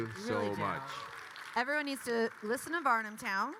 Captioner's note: attendees clapping